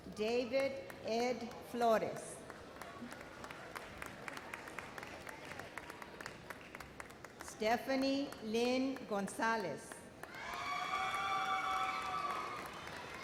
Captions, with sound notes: David Ed Flores. (audience applauds) Stephanie Lyn Gonzalez. (immense cheers)